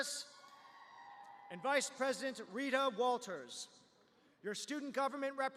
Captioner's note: cheers